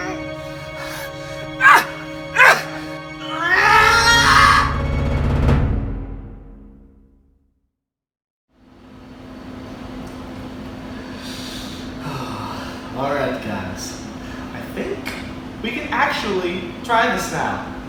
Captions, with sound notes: [grunts, then screams] [Sighs] Oh, alright guys, I think we can actually try this now.